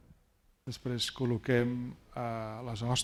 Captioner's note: speaking spanish